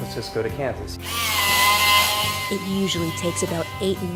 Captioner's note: tool buzzing